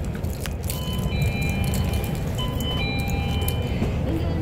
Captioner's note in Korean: 하차벨 소리